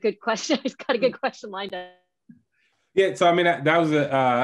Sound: laughing

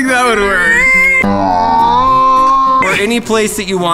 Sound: siren noise with mouth

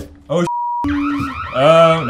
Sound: alarms

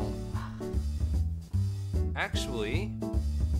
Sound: sighs

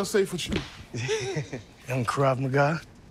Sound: chuckles

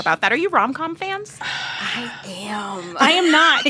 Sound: laughter

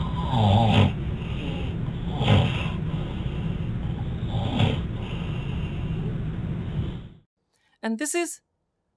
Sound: snoring begins

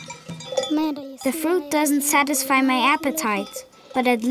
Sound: bells clanging

